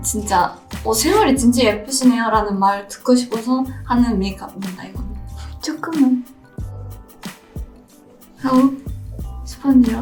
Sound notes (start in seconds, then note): 0.0 gentle music continues; 1.0 foreign language continues